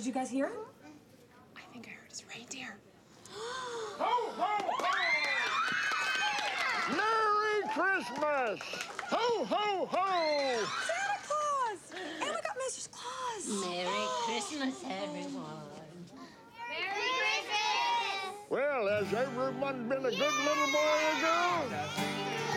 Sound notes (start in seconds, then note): 3.2 gasping; 4.7 kids yelling in excitement